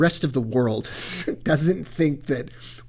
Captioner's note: laughs